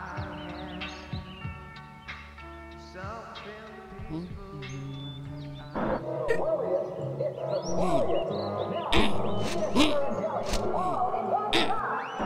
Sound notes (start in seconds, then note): 6.1 loud TV sounds; 7.6 grunts angrily